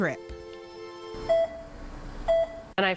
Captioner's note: heart monitor beeps